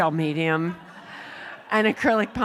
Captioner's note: laughter